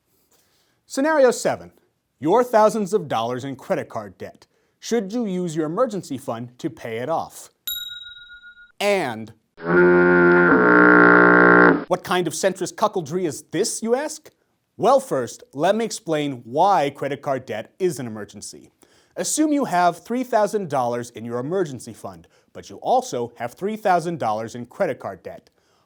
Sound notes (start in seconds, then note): 7.6 bell noise; 9.6 foghorn